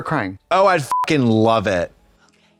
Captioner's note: beep